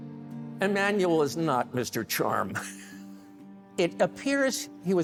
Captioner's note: chuckles